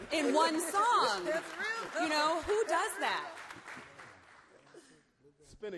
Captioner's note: applause